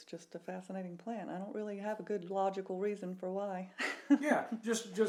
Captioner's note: laughs